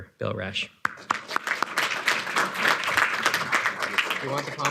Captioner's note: audience applauding